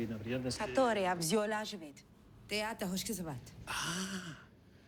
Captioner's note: speaks russian